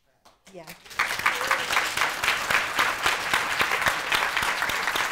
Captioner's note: audience applauding